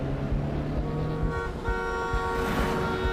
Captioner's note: horn blaring